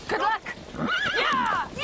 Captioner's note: horse whinnies